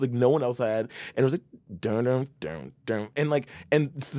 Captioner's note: mimics bassline